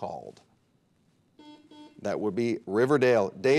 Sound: buzzer beeps

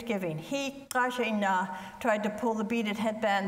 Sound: speaks foreign language

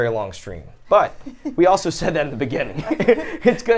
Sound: laughs

